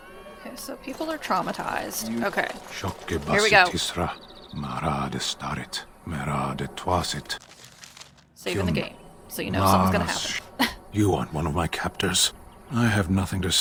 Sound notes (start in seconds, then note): 4.2 person in cage is speaking in foreign language; 9.4 laughs